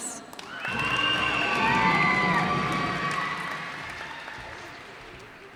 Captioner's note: cheers and applause